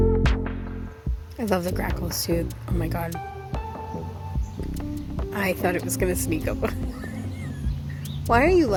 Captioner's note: laughs